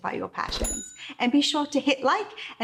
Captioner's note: bell dinging